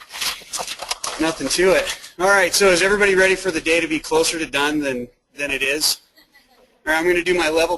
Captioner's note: laughing